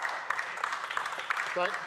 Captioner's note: speaking French